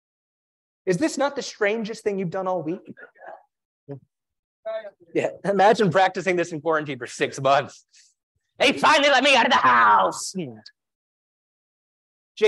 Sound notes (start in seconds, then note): 3.4 laugh